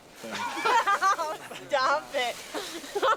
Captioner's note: laughs